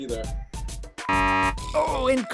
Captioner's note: beep